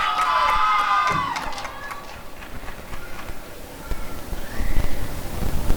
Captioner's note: applause and cheering